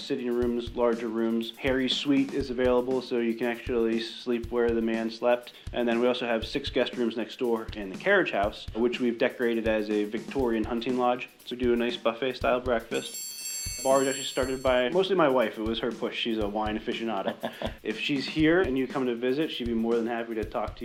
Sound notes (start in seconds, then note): 12.9 bells ringing; 17.1 laughing